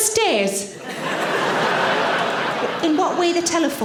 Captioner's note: audience laughing